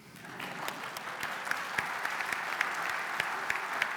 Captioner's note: applause